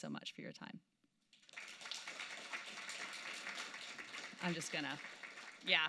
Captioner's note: applause